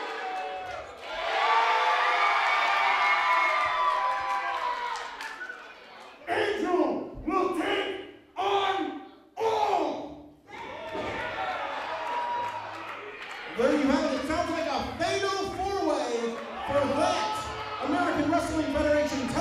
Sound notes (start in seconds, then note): 0.0 crowd cheers